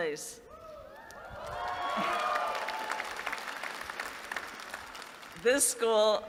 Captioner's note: applause